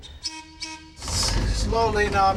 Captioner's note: trolley whistle blowing